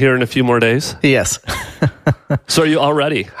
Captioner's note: laughs